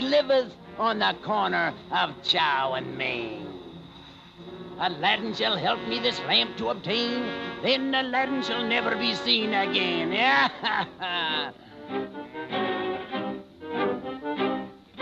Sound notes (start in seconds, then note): 10.2 cackling; 11.9 foreboding music